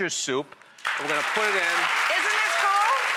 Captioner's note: audience applause